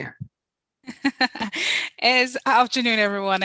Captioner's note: chuckles